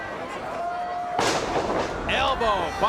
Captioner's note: bodies thud